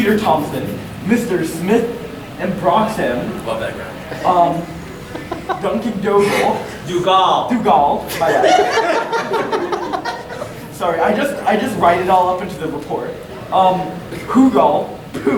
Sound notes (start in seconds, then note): 8.0 audience chuckling